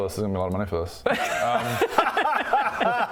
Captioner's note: ungrateful laughter